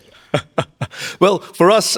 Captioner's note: Min laughing